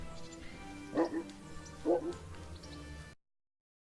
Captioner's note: dog is barking